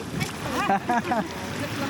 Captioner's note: laughing